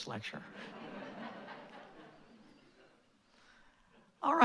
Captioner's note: laughter